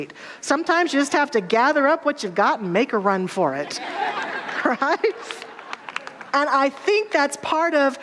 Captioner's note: audience laughter and applause